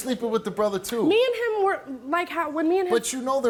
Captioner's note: stammers